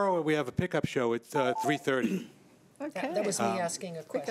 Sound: beeping

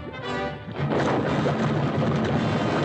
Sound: explosion

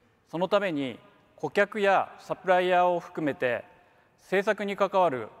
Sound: speaks in foreign language

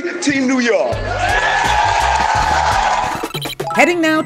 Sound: cheering

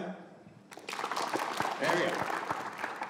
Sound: audience applauding

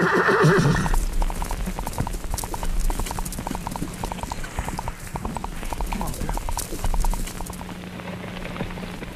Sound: neigh; horse hooves clopping

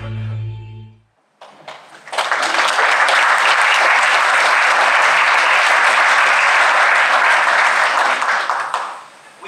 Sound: applause

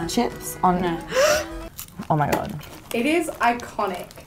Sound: gasps

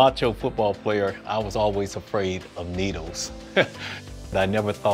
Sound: chuckles

